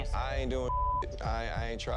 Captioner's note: beep